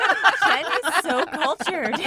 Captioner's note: all laughing